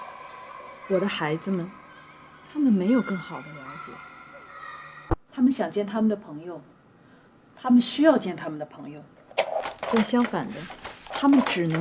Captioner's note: non-english speech